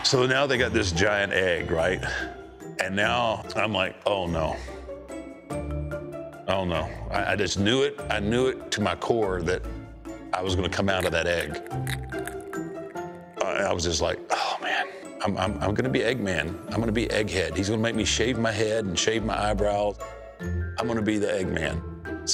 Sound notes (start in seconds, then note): none